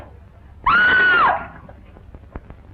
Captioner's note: screams